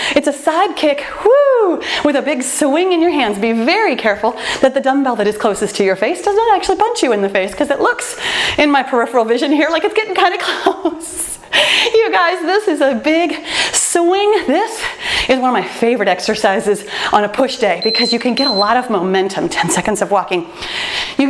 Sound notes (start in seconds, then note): 11.5 laughs; 17.8 timer beeps